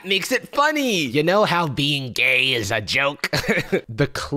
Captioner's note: chuckles